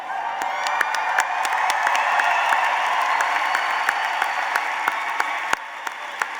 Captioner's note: applause